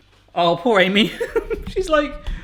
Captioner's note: laughs